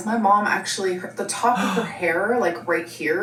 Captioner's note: gasping